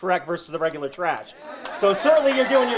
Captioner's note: audience cheers and applauds